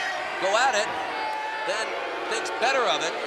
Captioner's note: crowd booing